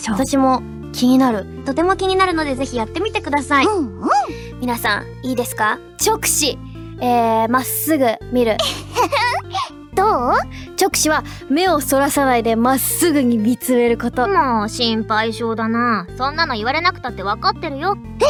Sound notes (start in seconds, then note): 8.6 laughs